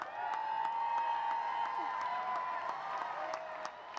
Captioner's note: cheering